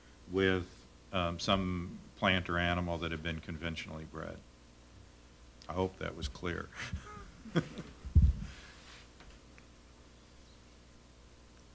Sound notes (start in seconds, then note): 6.7 chuckles